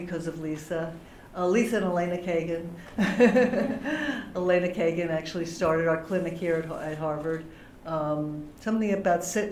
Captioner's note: laughter